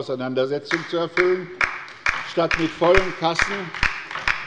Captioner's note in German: Beifall bei der LINKEN